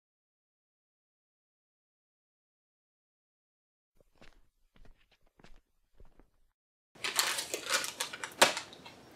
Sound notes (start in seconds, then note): 7.0 plastic bag crinkles